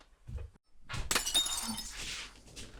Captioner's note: glass shattering